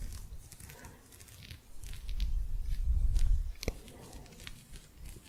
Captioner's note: gentle scratching